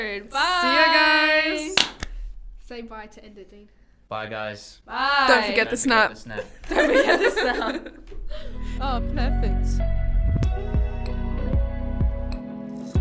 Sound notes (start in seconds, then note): 6.4 laughter; 9.1 outro theme music